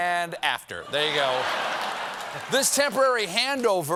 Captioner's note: laughter